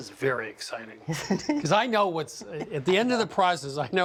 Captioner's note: laughs